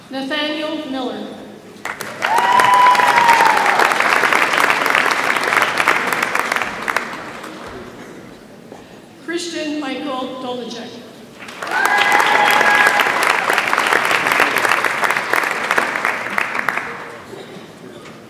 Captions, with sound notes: Nathaniel Miller. (audience applauds and cheers) Christian Michael Dolecheck. (audience applauds)